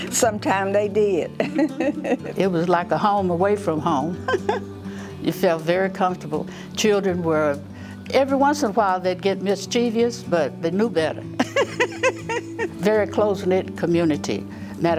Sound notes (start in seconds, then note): 1.4 chuckles; 4.2 chuckles; 11.4 chuckles